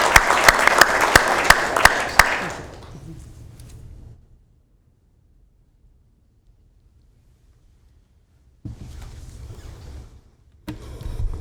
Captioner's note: applauding